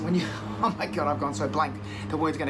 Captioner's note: laughs